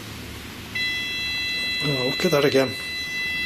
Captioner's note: machine beeping